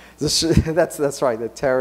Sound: laughs

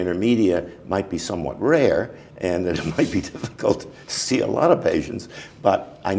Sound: chuckle

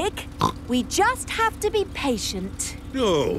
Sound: snorts

